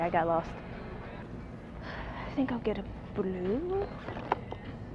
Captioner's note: sigh